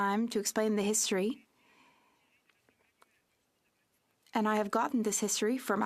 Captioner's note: speaking French